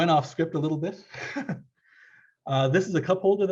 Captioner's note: laughs